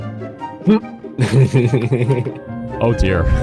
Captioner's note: laughing